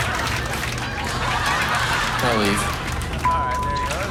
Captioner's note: laughter